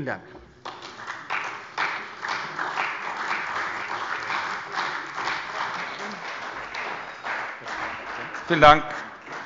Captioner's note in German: Beifall bei der CDU und dem BÜNDNIS 90/DIE GRÜNEN